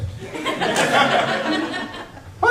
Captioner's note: laughter